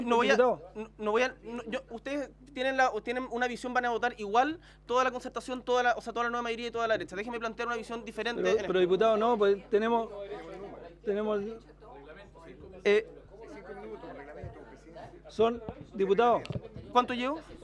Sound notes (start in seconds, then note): 8.6 chatter